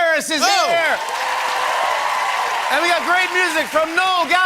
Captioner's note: cheers and applause